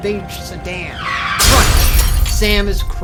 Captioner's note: tires screech; glass shutters